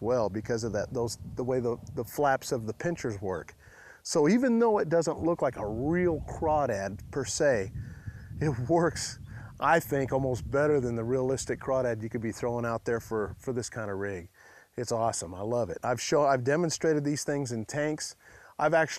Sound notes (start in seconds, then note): none